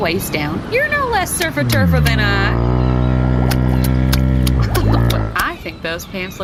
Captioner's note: growling